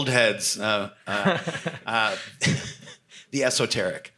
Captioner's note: laughs